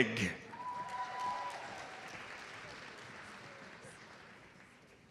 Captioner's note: audience applauds